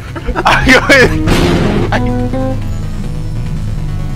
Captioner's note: Lightning